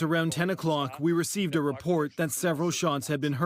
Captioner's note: speaking alternate language